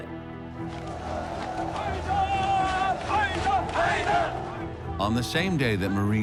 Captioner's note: crowd chanting